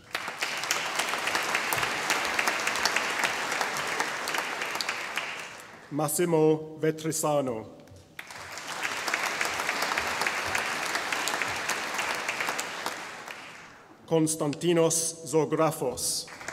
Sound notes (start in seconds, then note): 0.0 audience applauding; 8.1 audience applauding